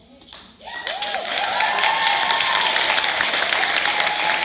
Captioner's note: applause